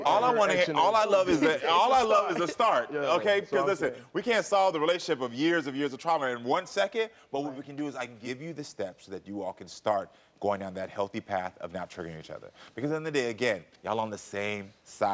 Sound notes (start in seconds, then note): 1.2 giggles